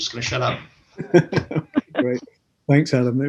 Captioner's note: all laugh